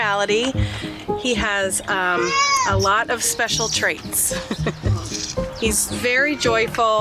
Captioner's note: chuckles